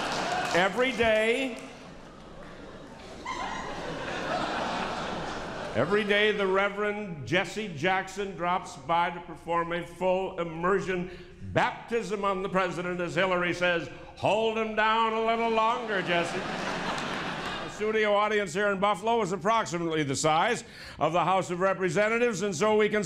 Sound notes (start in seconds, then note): 5.1 laughter